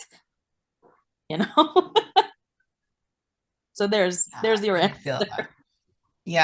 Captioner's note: laughs